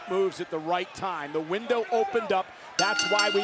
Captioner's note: bell rings